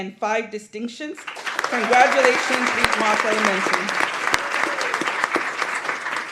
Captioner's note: applause